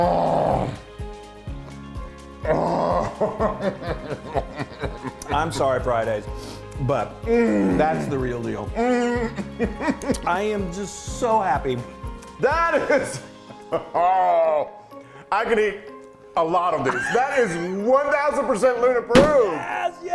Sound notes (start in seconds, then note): 2.5 laughing